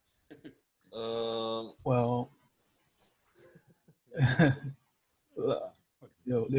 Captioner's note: laughs